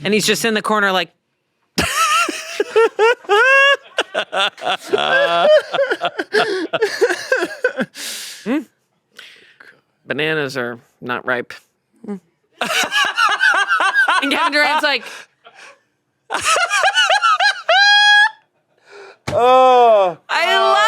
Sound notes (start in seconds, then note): 1.8 everyone laughs; 12.6 laughs; 16.3 laughs